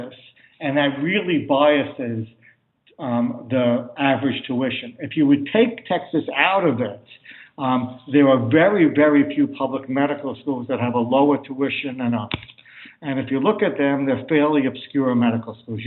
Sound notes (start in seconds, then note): 6.6 audio interference